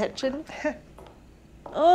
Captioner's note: Claire laughs